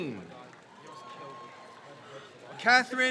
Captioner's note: crowd cheers